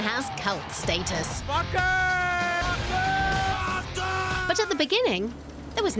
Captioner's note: Fans screaming "Wacken"